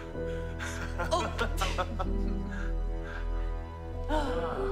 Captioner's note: both chuckling